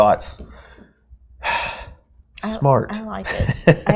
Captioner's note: sighs; laughing